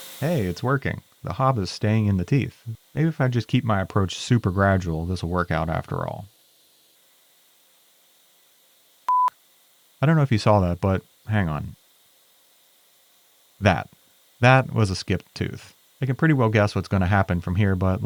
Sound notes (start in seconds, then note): 0.0 machinery whirring; 6.4 machinery whirring; 9.1 beep; 11.9 machinery whirring